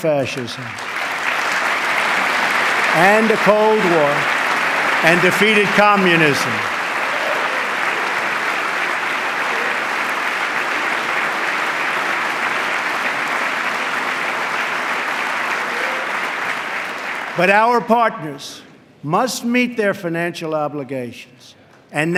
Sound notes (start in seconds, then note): 15.5 applause